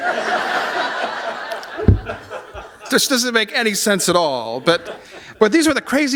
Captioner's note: laughter